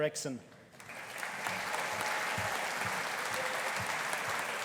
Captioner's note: audience applauding